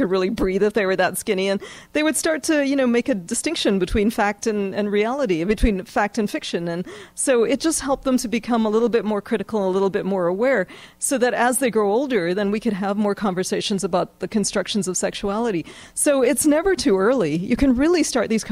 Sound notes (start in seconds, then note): none